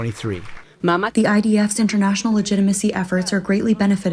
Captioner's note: through translator